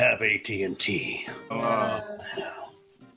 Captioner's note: everyone groans